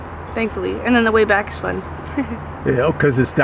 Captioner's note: giggles